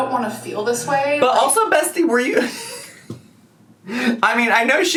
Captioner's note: laughs